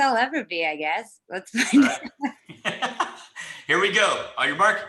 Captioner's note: laughs